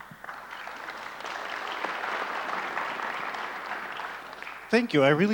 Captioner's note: audience applauds